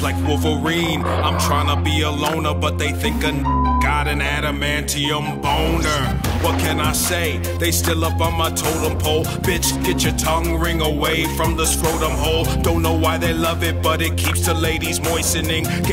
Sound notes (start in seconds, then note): 4.0 beep